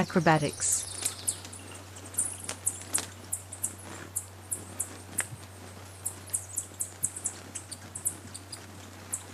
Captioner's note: birds chirping and singing